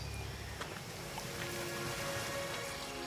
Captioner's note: gravel crunching